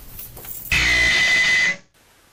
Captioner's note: static noise